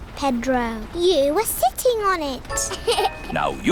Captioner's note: laughs